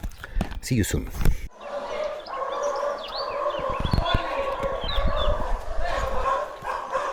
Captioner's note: dog barking